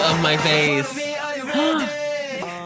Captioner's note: gasp